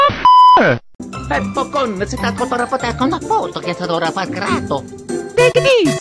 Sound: italian gibberish

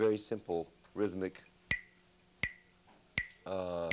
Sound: bangs sticks

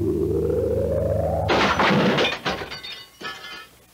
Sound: crash

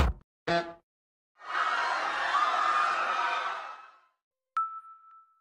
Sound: bonk!; crowd Screaming In The Distance

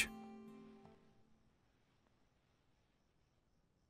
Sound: music stops

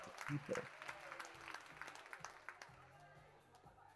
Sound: audience applauds, cheers

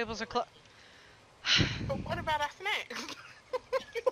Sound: sighs unhappily; laughing

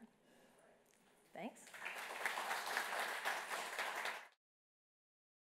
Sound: audience clapping

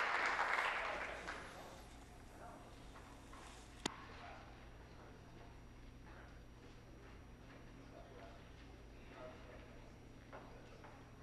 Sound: some Applause

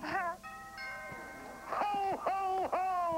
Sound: doorbell rings

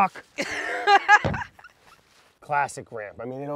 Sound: lauhs

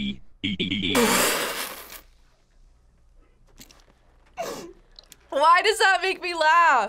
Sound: laughs

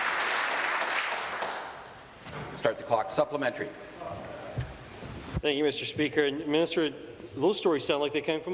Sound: applause

